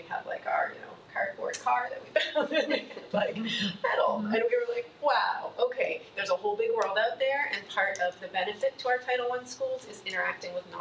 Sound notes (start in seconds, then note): 2.4 laughs